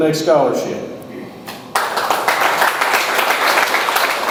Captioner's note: audience applauds